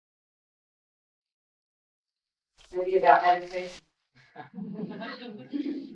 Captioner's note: laughter